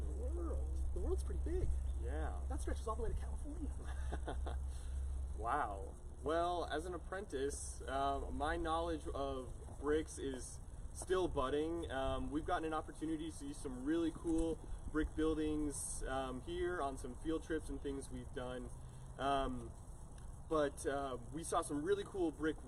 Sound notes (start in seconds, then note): 3.7 laughs